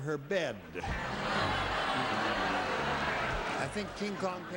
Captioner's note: audience laughs